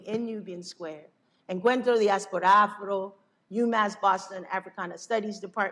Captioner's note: non-english speech